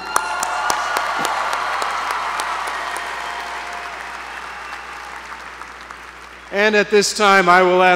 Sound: applause

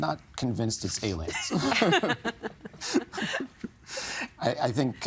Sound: all laughing

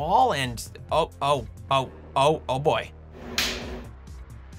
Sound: popping Sound

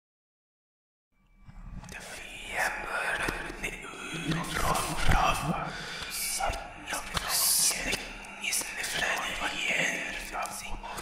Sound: demonic voice

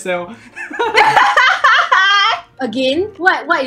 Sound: evil laugh

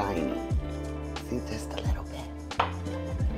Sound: whispers

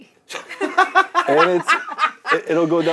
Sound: laughs

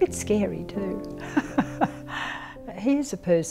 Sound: laughs

